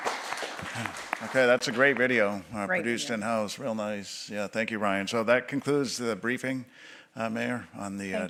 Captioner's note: applause